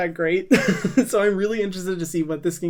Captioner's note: laughs